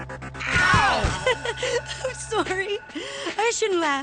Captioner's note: laughs